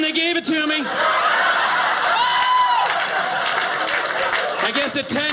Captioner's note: audience laughing